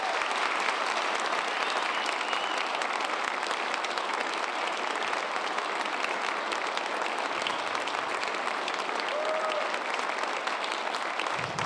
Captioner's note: cheers and applause